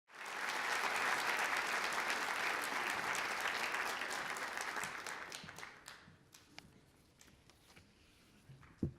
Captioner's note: applause